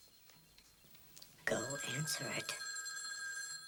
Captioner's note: continues Ringing